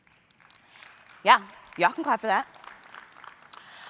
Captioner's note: applause